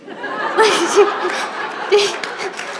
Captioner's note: laughter